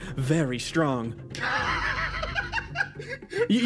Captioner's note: laugh